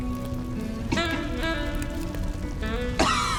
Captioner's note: coughs